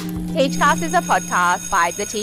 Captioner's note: bell ringing